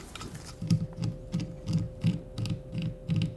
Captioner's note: spinning noises